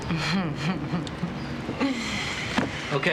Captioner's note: chuckling